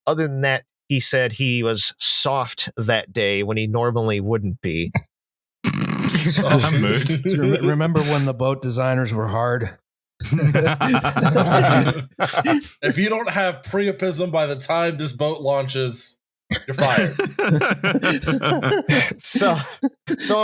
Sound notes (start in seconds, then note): 5.6 snorts; 6.1 chuckles; 7.3 laughter